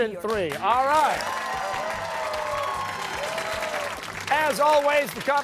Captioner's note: cheers and applause